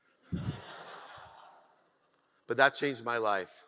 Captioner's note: audience laughs